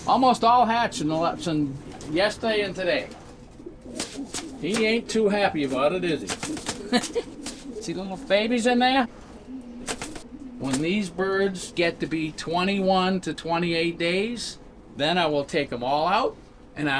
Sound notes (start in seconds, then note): 6.7 laughs; 7.0 wings rustling